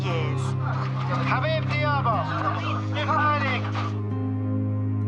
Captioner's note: speaking foreign language; dramatic orchestral music